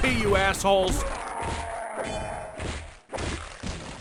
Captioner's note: death scream; splat! thud!